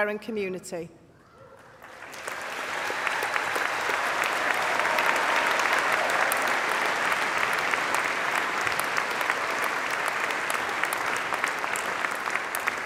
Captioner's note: applause